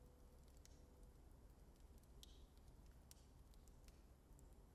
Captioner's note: flames crackling